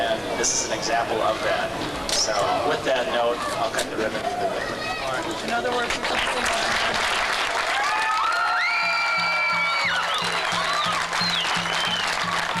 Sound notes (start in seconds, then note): 5.3 applause